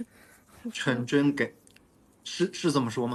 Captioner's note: him pronouncing his name in Cantonese again